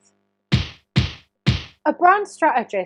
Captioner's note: punching sound effect